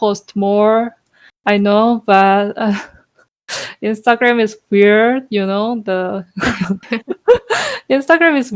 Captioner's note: laugh